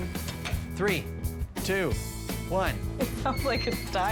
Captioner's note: laughing